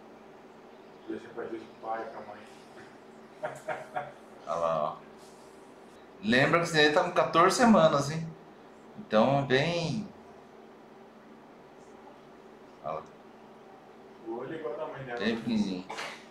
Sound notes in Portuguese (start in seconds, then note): 3.3 risos